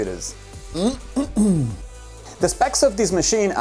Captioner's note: clears throat